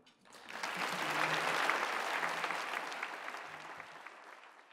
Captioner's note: audience applauding